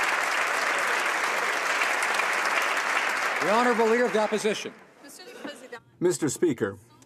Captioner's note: some Applause